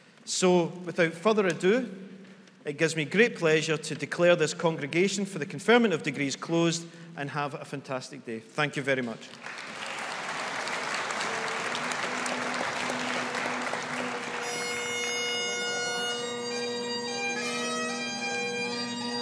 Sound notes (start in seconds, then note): 9.3 audience applauding; 14.6 bagpipes play